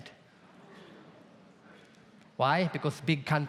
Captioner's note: audience murmurs